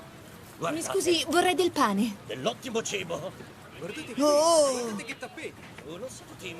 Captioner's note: market chatter